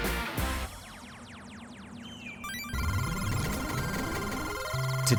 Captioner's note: upbeat music; video game sounds